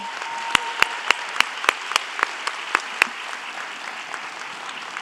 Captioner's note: audience applauding